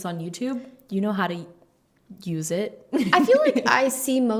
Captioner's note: laughs